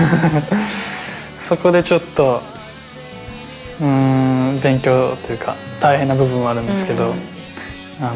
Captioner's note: laughs